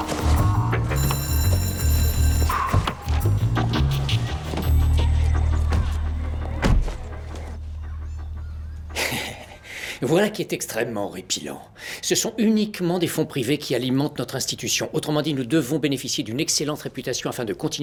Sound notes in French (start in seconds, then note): 0.8 La cloche de l'école sonne